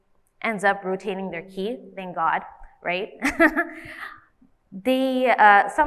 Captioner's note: laughs